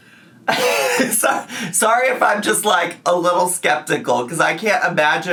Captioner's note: laughs